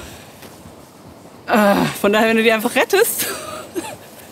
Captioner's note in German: seufzt